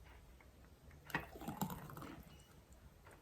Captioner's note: liquid pours